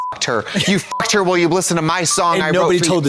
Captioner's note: beep